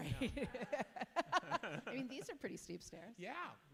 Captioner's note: laugh